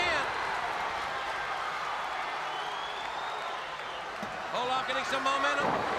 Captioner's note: crowd cheering